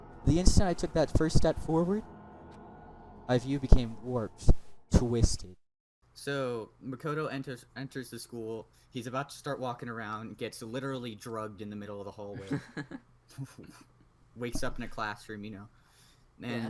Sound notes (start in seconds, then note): 12.4 both giggle